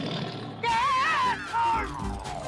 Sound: shouting

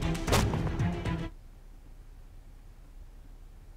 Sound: splat

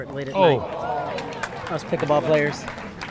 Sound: crowd clapping

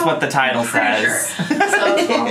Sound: laughing

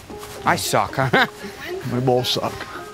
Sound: laughs

